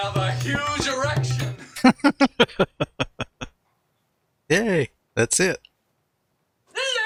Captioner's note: laughing